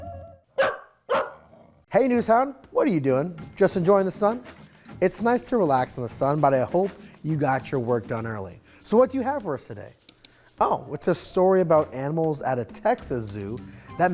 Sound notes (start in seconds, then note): 0.5 NewsHound barking